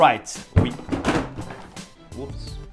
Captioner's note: box bangs